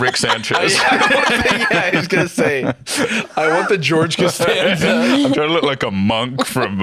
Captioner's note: laughs